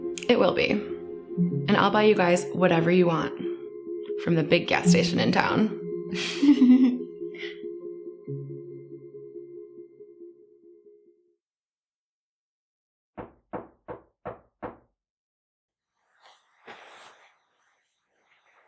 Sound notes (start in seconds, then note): 6.2 girls laugh